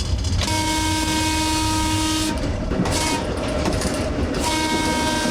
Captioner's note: trolley whistle blowing